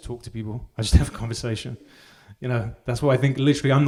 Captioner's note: audience members laugh